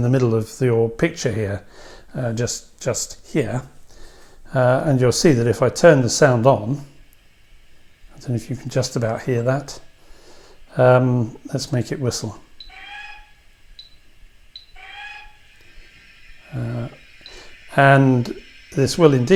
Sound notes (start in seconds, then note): 14.5 whistle sounds twice